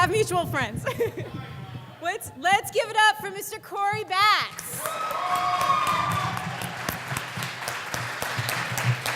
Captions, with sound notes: Let's give it up for Mr. Cory Batts! (audience claps and cheers)